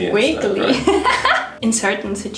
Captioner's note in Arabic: يضحك